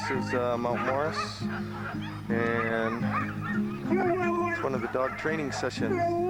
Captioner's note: howling; barking